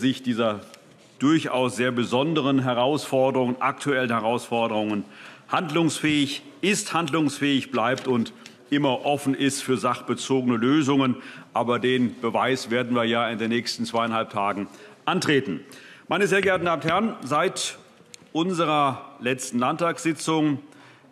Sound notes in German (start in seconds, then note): none